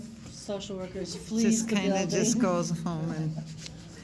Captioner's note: laughs